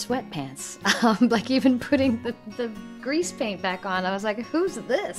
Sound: chuckles

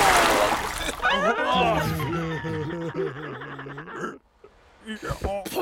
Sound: צוות הספינה צוחק

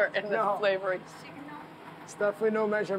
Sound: speaking Greek

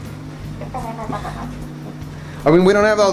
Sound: woman laughs

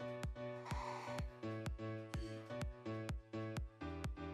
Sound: exhales

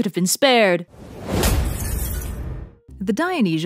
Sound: impact followed by falling glass

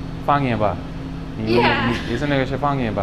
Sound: mandarin

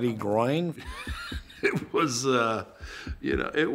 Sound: laughs

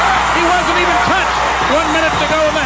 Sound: crowd cheers

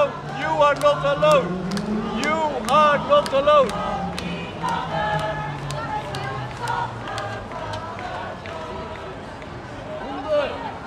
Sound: crowd and traffic sounds

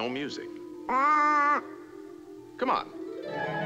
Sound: exclaims

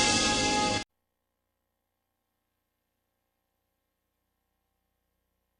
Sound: silence

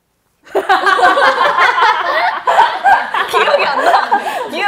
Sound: bursts of Laughter

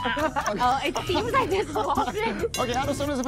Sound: bell dings

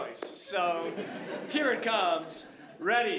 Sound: audience laughing

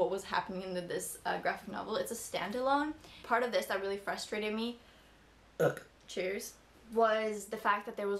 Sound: burp

